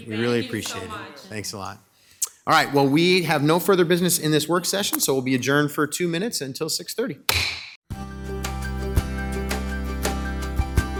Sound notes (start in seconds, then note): 7.4 gavel bangs; 7.9 mellow music